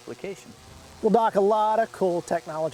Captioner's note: sound of Flying Drone